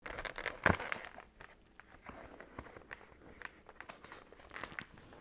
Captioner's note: advent Calendar door opening; paper crinkling